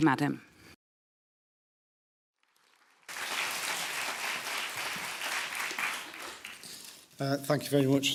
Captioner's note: applause